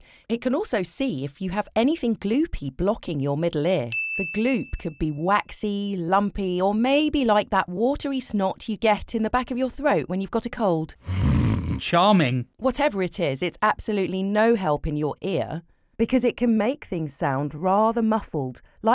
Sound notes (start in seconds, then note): 3.9 ringing; 11.0 snoring